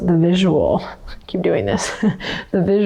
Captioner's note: chuckles